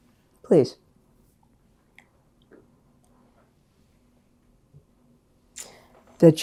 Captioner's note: drinking